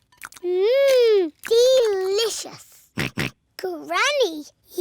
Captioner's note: george oinks